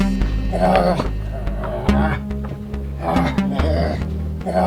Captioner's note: pensive synth music; Elroy grunts